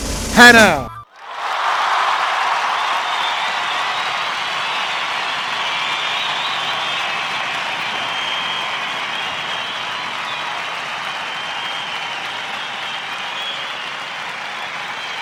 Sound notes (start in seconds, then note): 0.7 applause